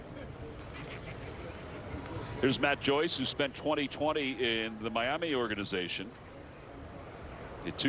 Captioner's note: laughter